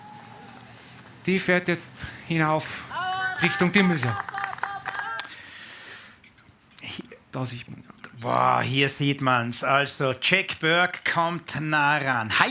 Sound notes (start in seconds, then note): 3.9 cheers, applause